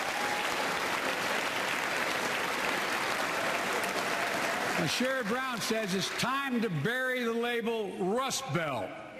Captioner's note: applause